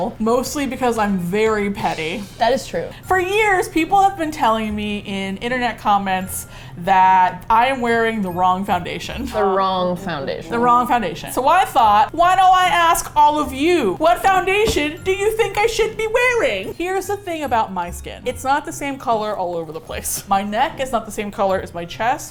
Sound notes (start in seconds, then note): 13.4 playfully